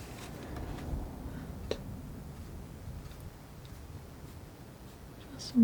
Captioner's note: scratching